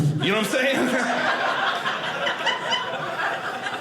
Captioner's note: audience laughing